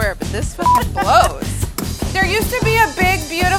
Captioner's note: laughter